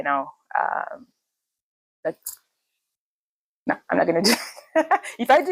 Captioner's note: laughs